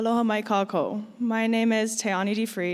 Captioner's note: speaking in foreign language